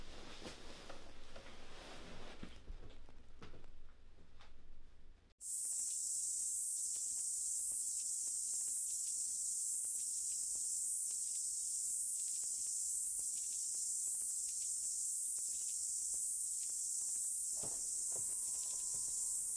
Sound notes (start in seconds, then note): 5.8 insects buzzing and chirping